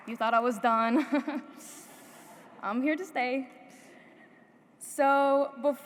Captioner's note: laughs